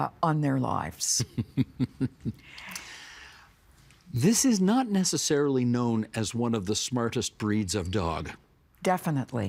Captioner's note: chuckling